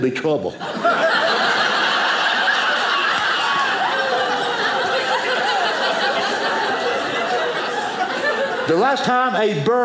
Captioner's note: audience laughing